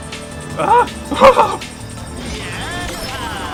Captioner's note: relief laughter